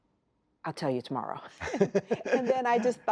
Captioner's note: laughter